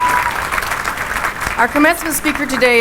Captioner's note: applause